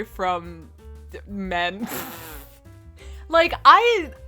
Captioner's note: pfft